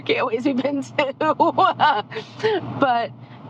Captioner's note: laughing